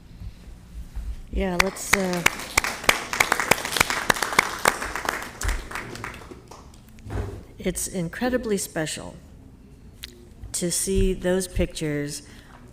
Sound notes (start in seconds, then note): 1.5 all applauding